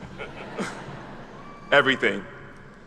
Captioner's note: attendees chuckle